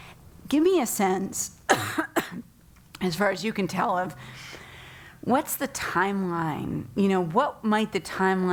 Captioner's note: cough